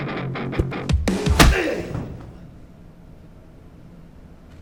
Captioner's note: John moaning